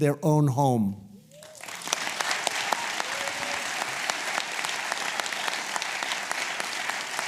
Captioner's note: applause